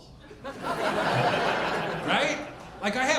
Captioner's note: audience laughing